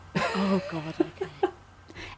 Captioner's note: laughs